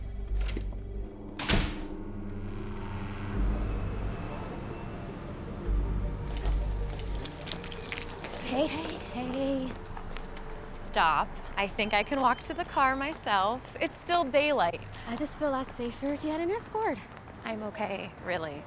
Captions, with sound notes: (door slams) - Hey, hey, hey. - Stop, I think I can walk to the car myself. It's still daylight. - I'd just feel a lot safer if you had an escort. - I'm okay, really.